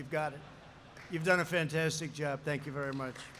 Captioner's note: laughter